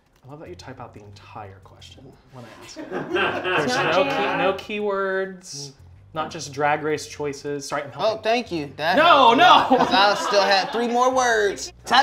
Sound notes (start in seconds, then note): 2.5 laughter